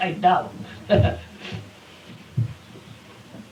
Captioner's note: laughs